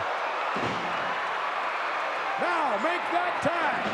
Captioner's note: audience cheering